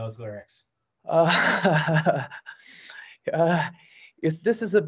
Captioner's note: laughs